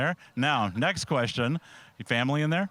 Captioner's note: laughing